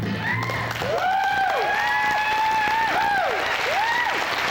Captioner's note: cheers, applause